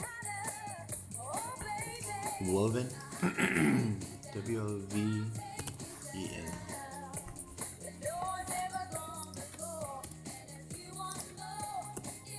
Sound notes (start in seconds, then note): 0.0 singing; 3.0 clears throat; 5.4 singing and music